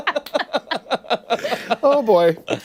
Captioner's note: laughter